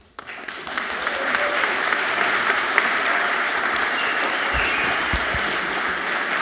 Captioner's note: audience clapping and cheering loudly